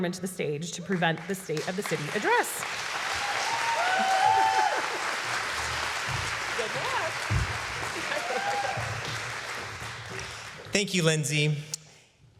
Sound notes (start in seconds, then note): 3.3 applause